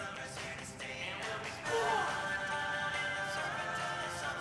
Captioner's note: yells